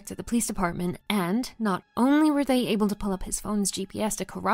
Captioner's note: none